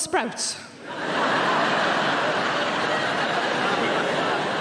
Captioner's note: audience laughing